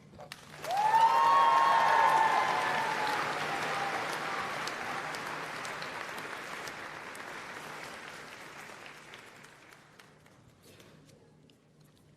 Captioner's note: applause and Cheering